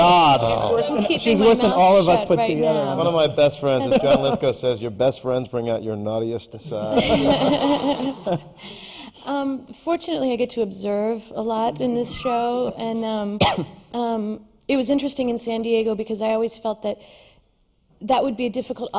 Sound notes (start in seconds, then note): 6.7 laughs